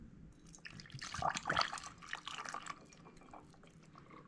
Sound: gurgling sounds

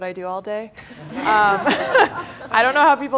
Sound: laughter

